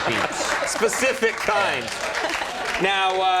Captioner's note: audience applauding